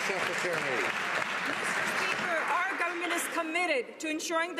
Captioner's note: some Applause